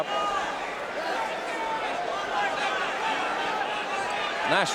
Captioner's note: audience cheering